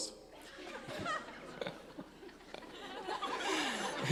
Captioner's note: laughing